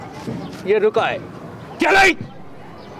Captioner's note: non-english speech